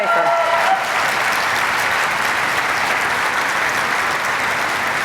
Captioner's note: applause